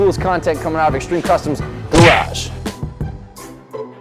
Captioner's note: punch; bouncy music